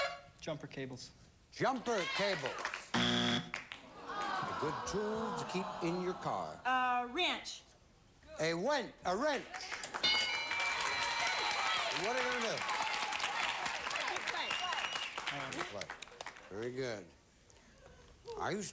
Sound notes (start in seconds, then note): 9.6 audience applauding